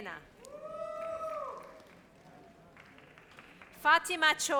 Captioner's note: audience cheers